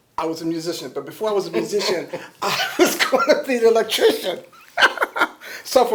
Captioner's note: laughter